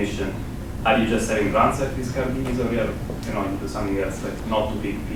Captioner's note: man speaks with heavy accent